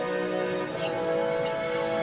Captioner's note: water running